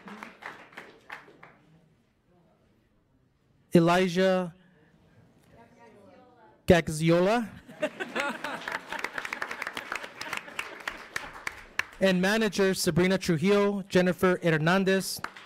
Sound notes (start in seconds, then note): 7.6 board laughs; 7.8 audience applauds